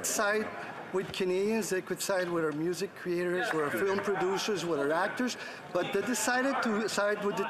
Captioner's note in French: voix de l'interprète